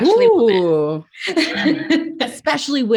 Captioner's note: laughs